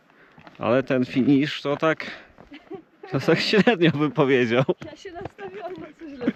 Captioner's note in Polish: śmiech